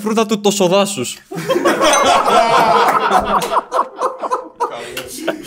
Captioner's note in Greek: γέλια